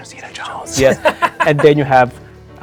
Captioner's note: laughing